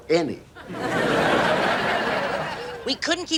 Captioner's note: audience laughs